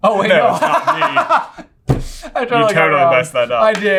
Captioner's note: laughing